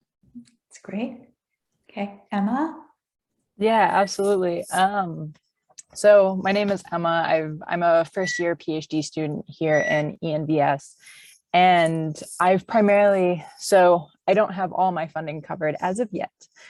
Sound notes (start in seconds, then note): none